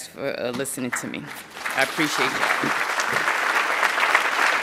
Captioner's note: audience applauding